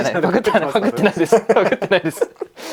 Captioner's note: laughs